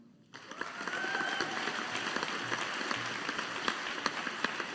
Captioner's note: audience applauding